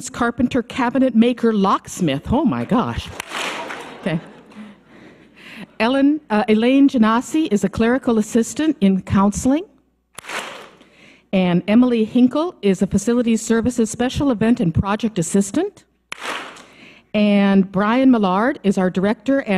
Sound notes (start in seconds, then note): 3.1 audience claps and laughs